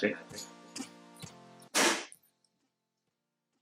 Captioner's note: flashback sounding voice; bang!